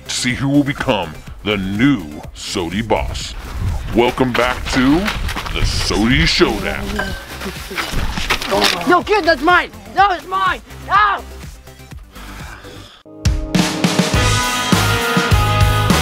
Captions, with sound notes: to see who will become the new Soty boss. Welcome back to the Soty Showdown. - No, give that's mine. No, that's mine (screams). (upbeat music)